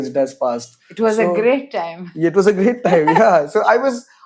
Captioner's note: laughs